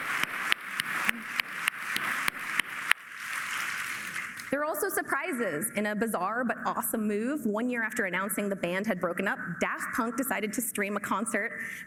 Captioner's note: applause